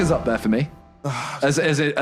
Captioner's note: sighs